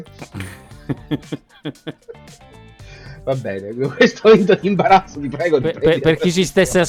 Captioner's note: laughs